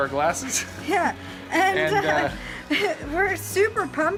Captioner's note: laughing